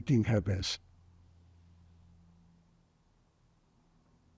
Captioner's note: pauses 10 seconds